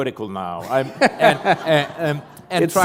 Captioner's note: laughter